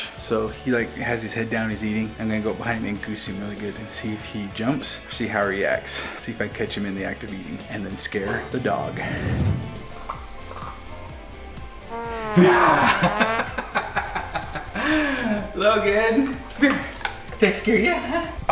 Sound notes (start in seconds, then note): 12.1 low tuba sound; 12.2 laughs